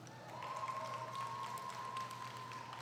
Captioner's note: applause